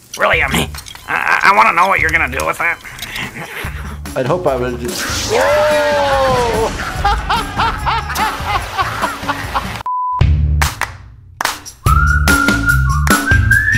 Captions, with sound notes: - Really, um, I want to know what you're going to do with that. - I'd hope I would- whoa! (laughter) (upbeat whistling)